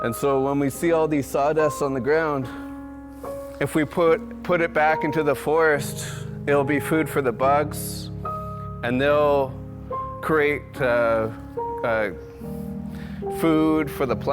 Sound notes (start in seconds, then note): none